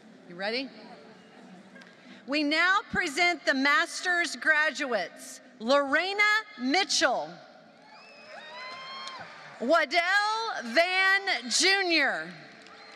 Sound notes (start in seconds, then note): 8.6 applause; 12.6 applause